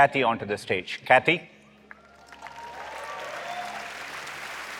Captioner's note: applause